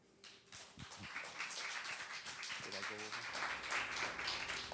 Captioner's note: applause